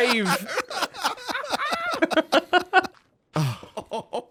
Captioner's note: EVERYONE laughs